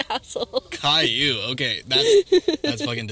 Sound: Turtledove laughs

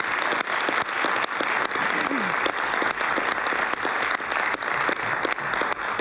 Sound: applause

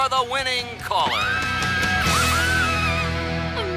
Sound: both scream

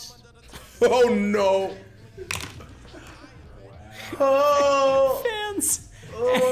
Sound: laugh

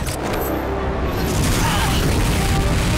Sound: grunting

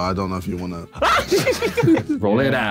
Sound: screaming

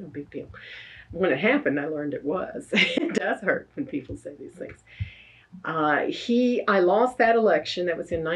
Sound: laughs

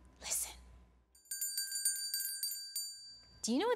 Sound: bell ringing

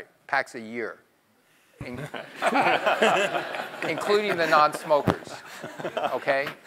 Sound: laugh

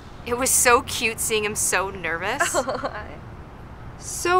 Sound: Claire laughs

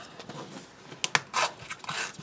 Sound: tearing sound

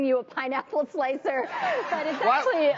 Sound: audience laughing

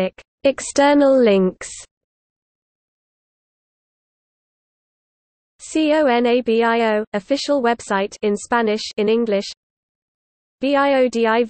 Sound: in Spanish

